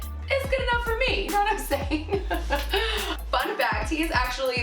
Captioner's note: laughs